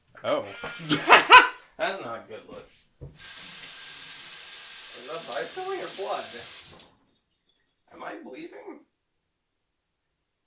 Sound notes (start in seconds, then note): 0.2 laughs; 3.0 running water